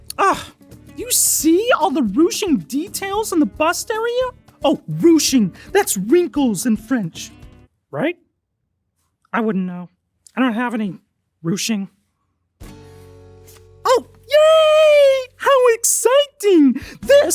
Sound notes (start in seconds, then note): 1.7 speaks French; 4.9 speaks French; 11.5 speaks French; 12.6 mellow music